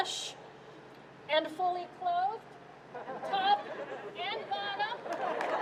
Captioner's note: chuckles